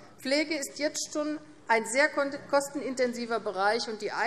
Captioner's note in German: none